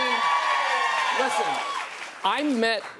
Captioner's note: cheers and applause